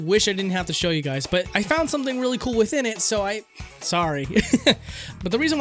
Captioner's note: laughs